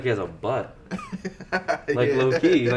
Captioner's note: laughs